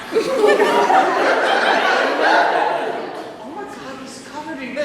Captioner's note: laughter